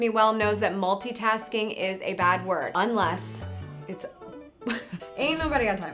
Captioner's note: chuckles